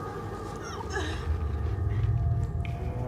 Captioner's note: panting in echo